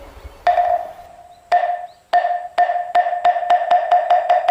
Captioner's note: wood thudding